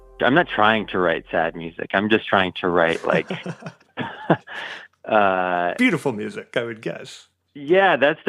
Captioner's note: laughs